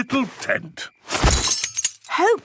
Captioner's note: clang-ruffle-thump